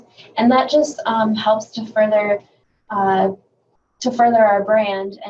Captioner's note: none